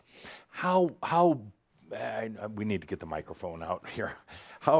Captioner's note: none